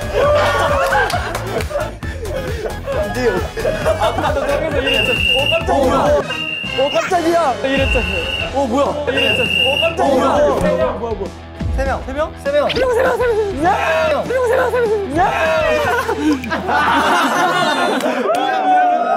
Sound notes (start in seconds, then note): 6.2 whistle out of nowhere; 6.2 whistle blows; 9.1 whistle